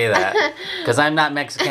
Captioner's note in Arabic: يضحك